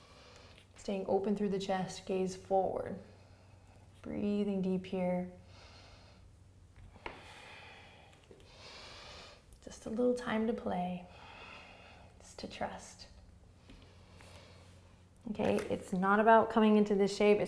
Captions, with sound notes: Staying open through the chest, gaze forward. Breathing deep here. (breathing) Just a little time to play. Just to trust. OK, it's not about coming into this shape,